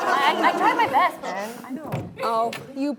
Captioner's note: laughing